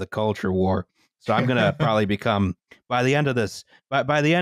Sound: laughs

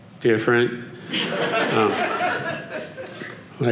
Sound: audience laughing

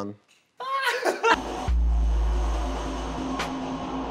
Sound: laughing

